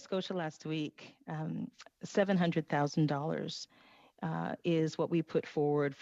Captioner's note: speaking French